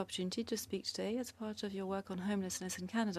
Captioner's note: speaking French